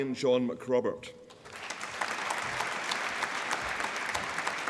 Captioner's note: applause